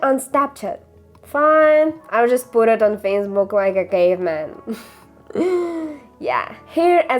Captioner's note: laughter